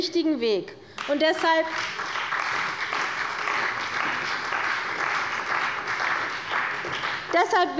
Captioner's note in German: Beifall bei der CDU und dem BÜNDNIS 90/DIE GRÜNEN